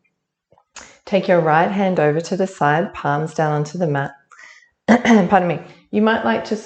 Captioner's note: cough